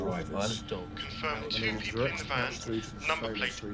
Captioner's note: man over phone